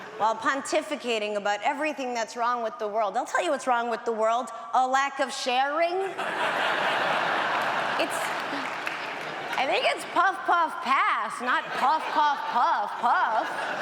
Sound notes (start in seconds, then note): 6.0 audience laughs